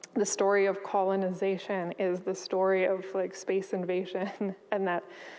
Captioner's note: chuckles